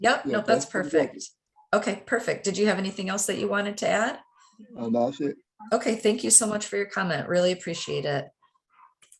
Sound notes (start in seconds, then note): 1.0 faintly speaking